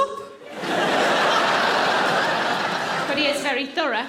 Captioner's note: audience laughing